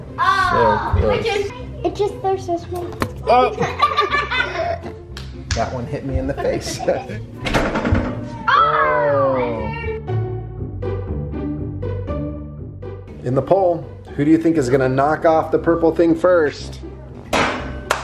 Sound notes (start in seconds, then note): 3.5 laughing; 10.7 playful music